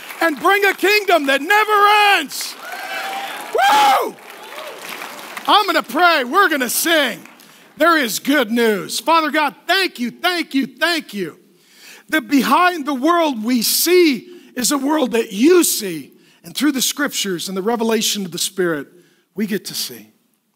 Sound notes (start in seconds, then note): 1.6 cheering; 2.7 applause